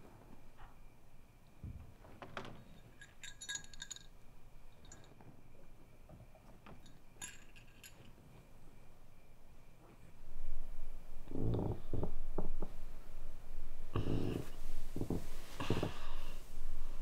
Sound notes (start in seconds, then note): 2.6 jingling; 11.2 creaking